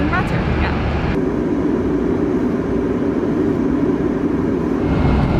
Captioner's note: plane engine roaring